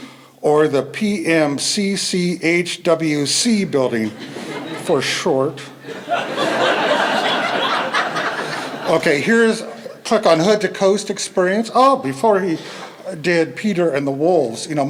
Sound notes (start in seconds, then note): 5.7 laughter